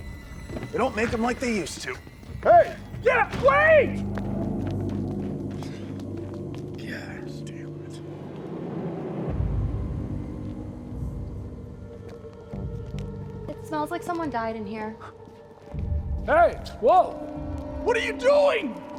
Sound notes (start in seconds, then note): 0.0 dramatic music; 4.6 dramatic music continues; 5.5 sighs; 12.6 eerie music